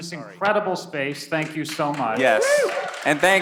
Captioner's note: people clapping